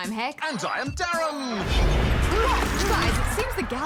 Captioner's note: thud!